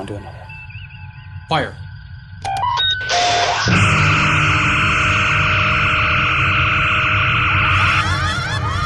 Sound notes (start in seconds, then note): 2.5 phasers fire; 7.8 irska cries